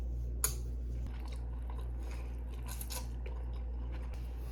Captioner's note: chomp chomp munch